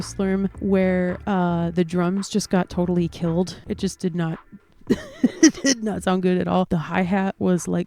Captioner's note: laugh